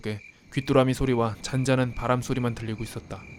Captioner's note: you could hear the sounds of crickets and a gentle breeze